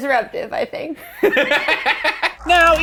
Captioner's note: laughs